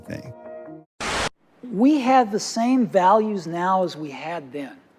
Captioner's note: static